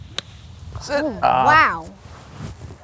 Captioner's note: grunts